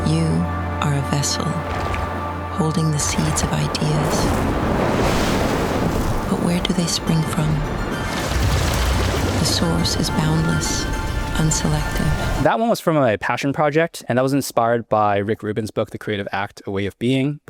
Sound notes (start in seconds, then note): 4.6 thunder roaring; 8.5 water bubbling